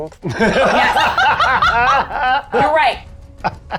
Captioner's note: players laughing